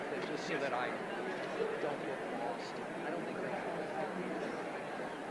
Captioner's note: indistinguishable chatter